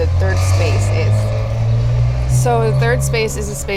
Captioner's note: vehicles rumbling